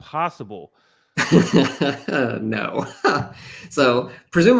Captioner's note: laughs